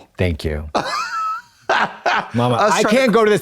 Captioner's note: chortles